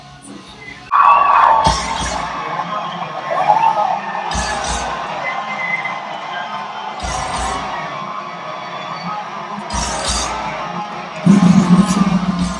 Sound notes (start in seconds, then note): 1.2 cheering; 4.2 rock music